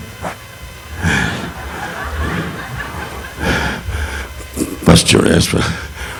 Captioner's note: audience laughing; mic thudding; Don breathing deeply